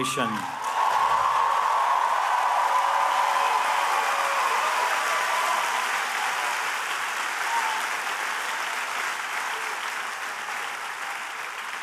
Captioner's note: cheers and applause